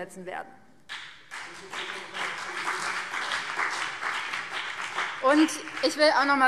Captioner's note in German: Beifall BÜNDNIS 90/DIE GRÜNEN und vereinzelt CDU